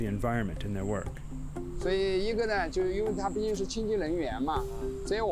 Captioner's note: speaking chinese